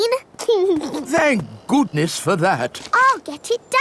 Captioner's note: giggles